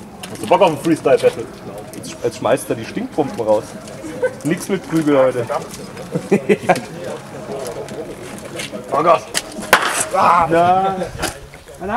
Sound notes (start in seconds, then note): 5.8 laugth